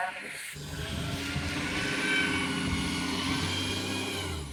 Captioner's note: bus driving past